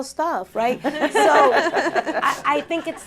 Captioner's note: laughter